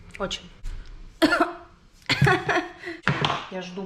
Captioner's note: coughs